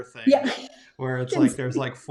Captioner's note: laughs